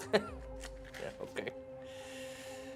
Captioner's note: laughs